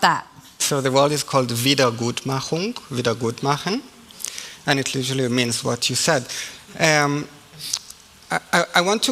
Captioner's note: German language 00:31:31